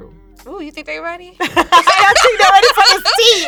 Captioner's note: laughing